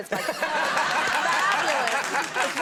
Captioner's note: clapping